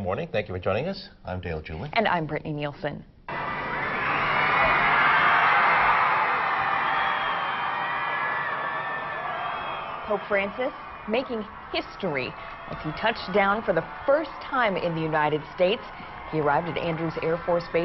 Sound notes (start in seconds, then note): 13.5 applause